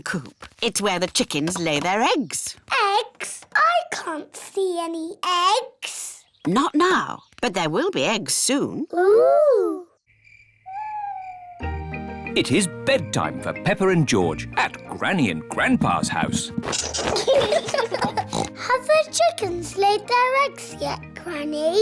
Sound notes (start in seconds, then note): 10.0 crickets chirping; 16.8 both giggling; 18.1 oinks